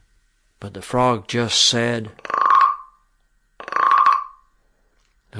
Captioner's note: frog sound effect